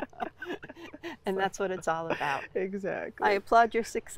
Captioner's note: laughter